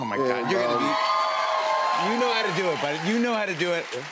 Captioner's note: cheers and applause